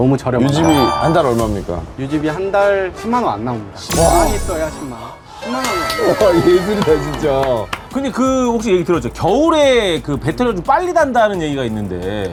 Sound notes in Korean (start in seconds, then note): 6.7 박수갈채